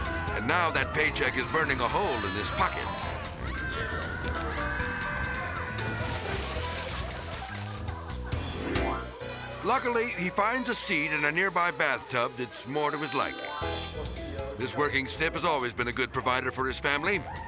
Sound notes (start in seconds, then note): 0.0 dramatic music; 0.0 flames roaring; 2.9 family screaming; 6.4 water splashing